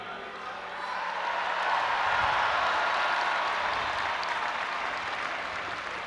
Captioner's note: audience applauding and cheering